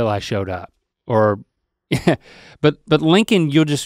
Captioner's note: chuckles